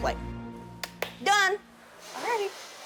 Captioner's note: claps